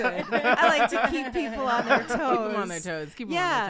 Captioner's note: laughing